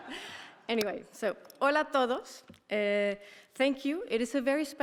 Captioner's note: speaker speaking in a foreign language